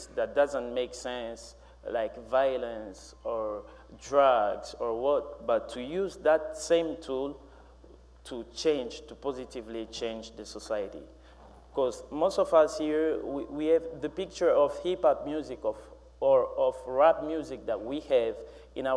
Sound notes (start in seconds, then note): none